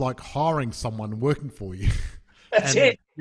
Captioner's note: chuckles